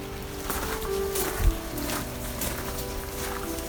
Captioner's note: crunch of boots on gravel